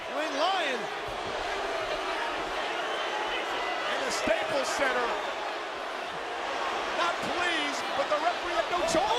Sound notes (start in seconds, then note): 1.0 crowd yelling